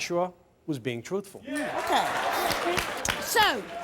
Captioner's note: audience applauding and cheering